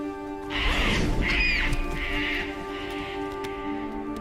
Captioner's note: bird cawing